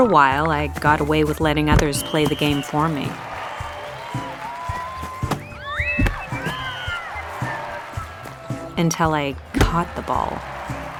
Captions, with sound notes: For a while I got away with letting others play the game for me. (crowd cheering) Until I caught the ball.